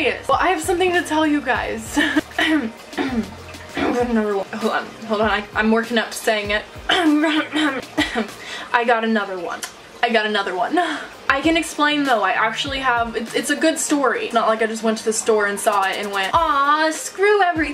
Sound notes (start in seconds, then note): 2.0 nervous laughter; 3.0 clearing throat; 6.8 cough; 10.4 laughs